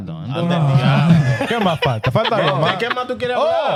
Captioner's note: speaking In Foreign Language